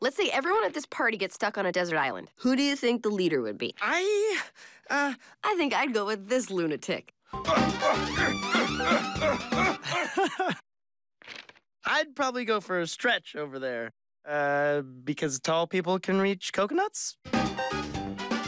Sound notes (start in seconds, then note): 7.4 grunting; 10.5 laughs